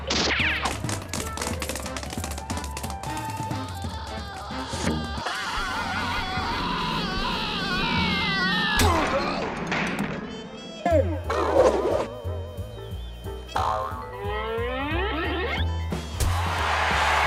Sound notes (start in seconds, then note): 3.6 screaming; 16.1 crowd cheers